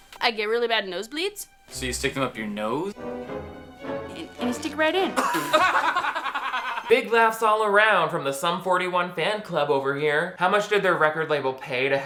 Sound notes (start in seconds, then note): 3.5 dramatic music; 5.1 boys laughing